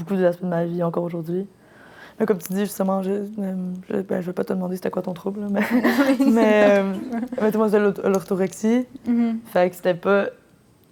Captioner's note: laughs